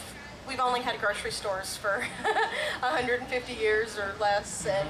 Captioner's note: laughs